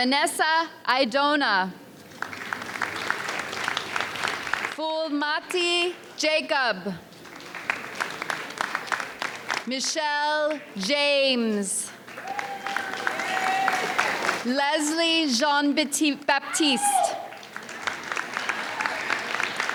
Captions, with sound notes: Vanessa Idonna. (audience applauds) Fuomati Jacob. (audience applauds) Michelle James. (audience cheers) Leslie Jean-Baptiste. (audience cheers)